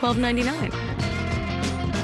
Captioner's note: countdown clock beeping